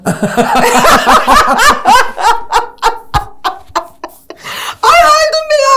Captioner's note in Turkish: Güldüler